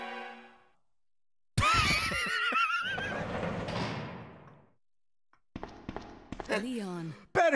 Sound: laughs

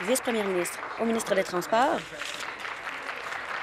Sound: applause

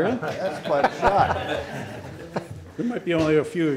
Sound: everyone laughing

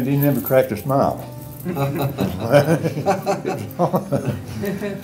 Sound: laughter

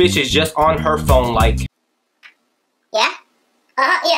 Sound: speaking in a high pitch

